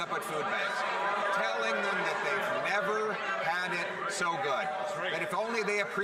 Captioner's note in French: voix de l'interprète